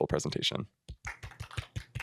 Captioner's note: applause